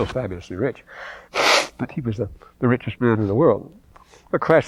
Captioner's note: blows nose